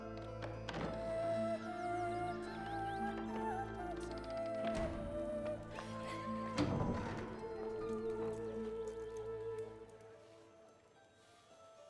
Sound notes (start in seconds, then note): 5.8 women giggling